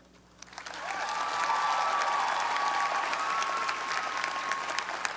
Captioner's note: graduates applaud and cheer